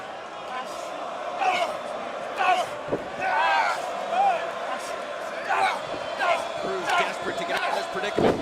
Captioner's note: crowd chatter